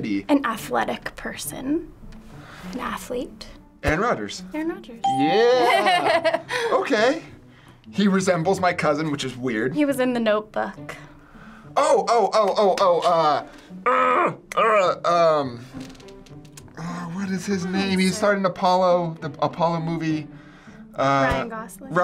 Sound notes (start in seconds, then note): 5.6 laughing; 13.8 groaning